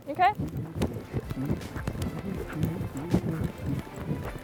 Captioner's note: rustling of ill-fitting clothes